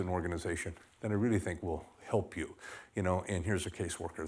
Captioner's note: none